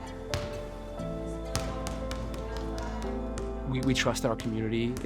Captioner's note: rubber tapping